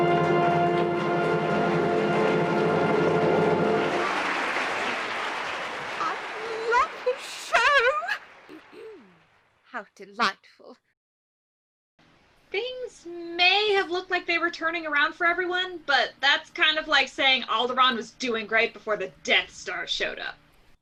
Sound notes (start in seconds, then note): 0.2 audience applause; 8.5 clears throat; 9.5 calmly